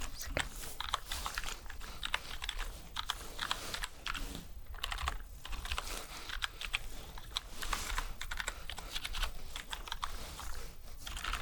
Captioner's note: typing sounds